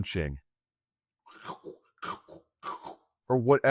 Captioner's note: imitates chewing